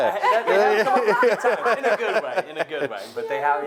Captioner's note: laughing